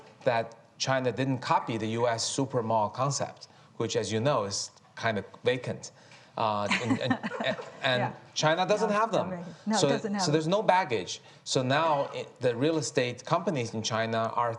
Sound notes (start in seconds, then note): 6.6 chuckles